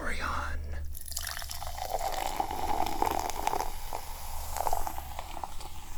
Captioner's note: liquid pouring and fizzing